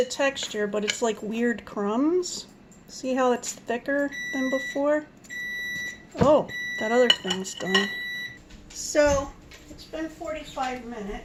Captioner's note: beep, beep, beep